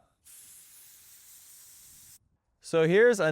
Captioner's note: air hissing